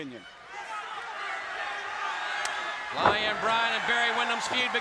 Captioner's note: crowd chatter